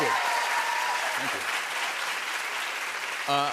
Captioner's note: cheers and applause